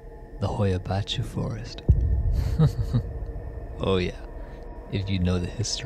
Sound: chuckle

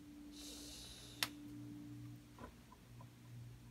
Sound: muffled shushing

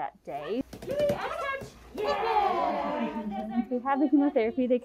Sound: cheering

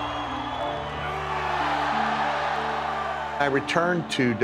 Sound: screams; crowd cheering

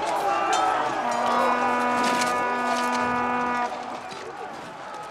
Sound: horn sounds

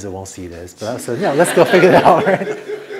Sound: laughter

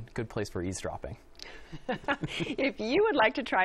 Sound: laughs

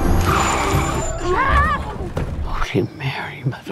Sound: tires screech; Lily cries out

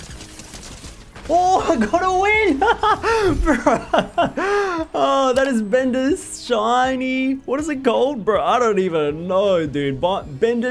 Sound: laughs

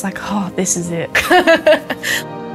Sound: laughs

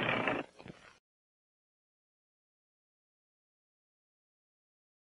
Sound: Leo the Lion roaring; silence

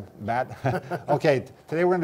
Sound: laughs

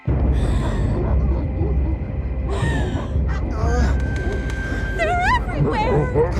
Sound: אליזבת מתנשפת

